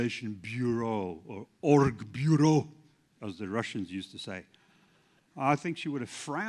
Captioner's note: russian